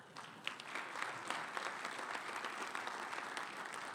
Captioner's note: audience applauds